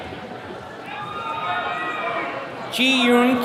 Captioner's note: attendees cheering